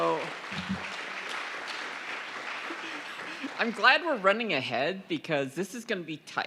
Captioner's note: applause